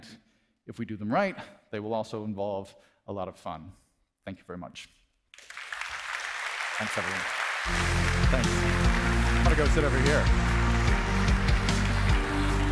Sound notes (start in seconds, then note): 5.3 audience applauding; 7.6 upbeat music